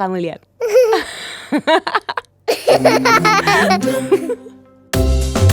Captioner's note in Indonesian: tertawa